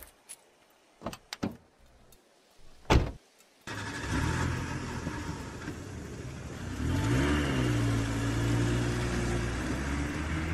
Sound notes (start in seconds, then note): 1.0 truck door opens; 2.8 truck door closes; 3.6 truck starts up; 6.7 truck pulls out